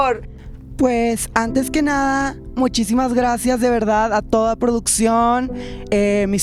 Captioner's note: posh accent